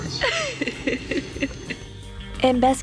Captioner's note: laughing